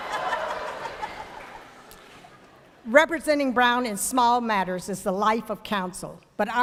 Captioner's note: laughter